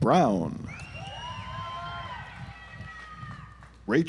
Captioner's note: audience applauds